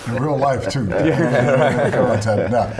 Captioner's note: laughter